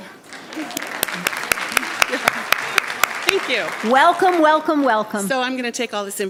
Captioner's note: applause